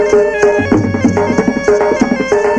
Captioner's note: none